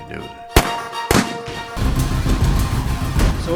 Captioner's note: guns firing; suspenseful music